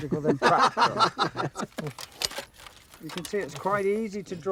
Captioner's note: men laughing